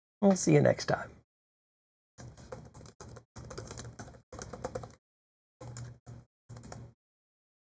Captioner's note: typing